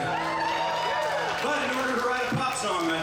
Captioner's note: audience cheers